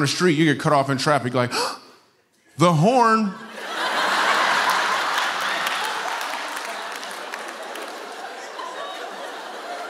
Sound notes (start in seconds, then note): 3.4 laughter